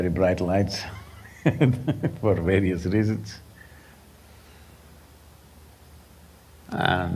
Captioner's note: laughs